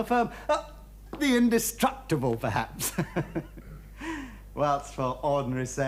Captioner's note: laughs